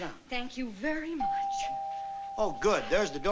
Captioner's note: doorbell ringing